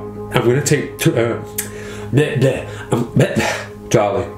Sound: stuttering

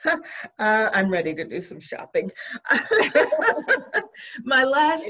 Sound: laughs

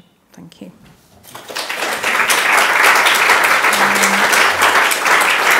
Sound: audience clapping

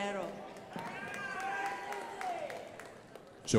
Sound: crowd applauding

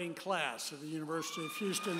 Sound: audience cheers and applauds

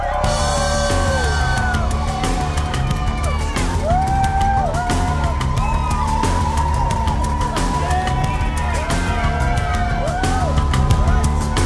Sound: cheering

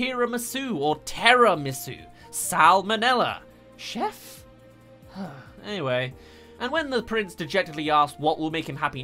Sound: sigh

